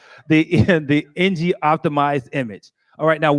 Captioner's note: laughter